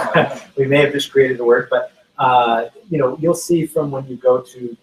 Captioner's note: laughs